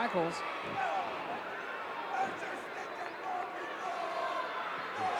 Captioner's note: audience cheering